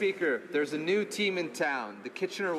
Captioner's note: speaking in French